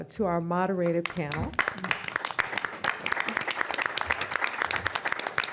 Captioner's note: applause